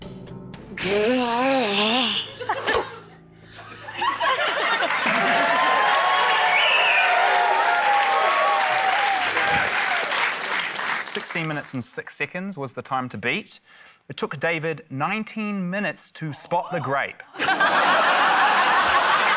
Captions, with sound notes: - (GROWLS IN EXASPERATION) (LAUGHTER) (CHEERING, APPLAUSE) - 16 minutes and six seconds was the time to beat. It took David 19 minutes to spot the grape. (LAUGHTER)